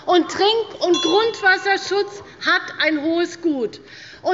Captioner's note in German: Unruhe – Glockenzeichen der Präsidentin